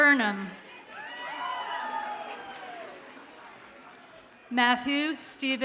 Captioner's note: audience cheers and applauds